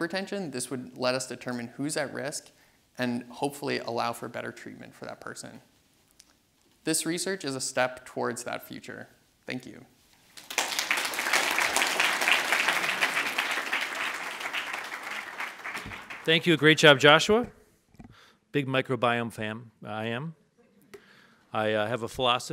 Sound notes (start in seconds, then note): 10.3 audience applauds